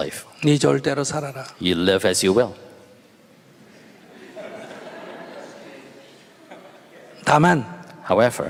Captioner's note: audience Laughter